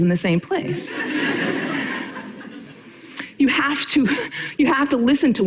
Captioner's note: audience laughing